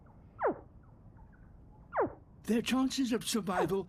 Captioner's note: pulsing squeaks